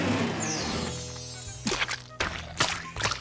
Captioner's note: squishing noises